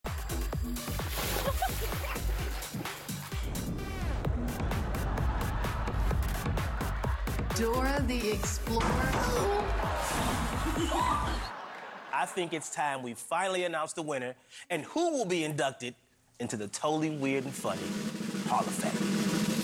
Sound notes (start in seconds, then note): 4.4 audience laughing; 11.6 door thumping; 19.4 drumroll rumbling